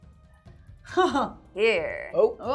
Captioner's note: laughing